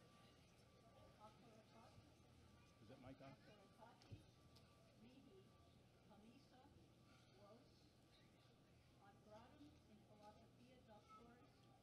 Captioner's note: non-english speech